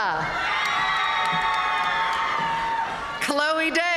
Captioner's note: audience cheering and applauding